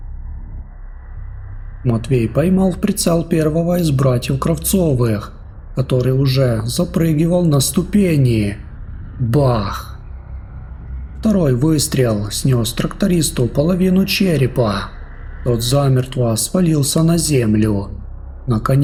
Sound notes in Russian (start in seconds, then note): 8.6 бах!